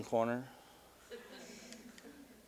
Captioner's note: audience: Laughter